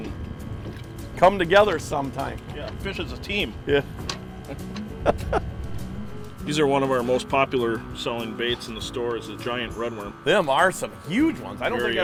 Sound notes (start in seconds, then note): 4.4 laughing